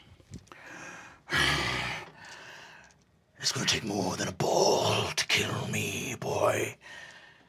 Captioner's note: growling